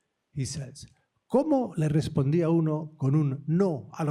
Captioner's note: speaking spanish